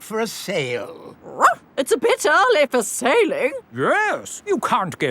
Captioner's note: barks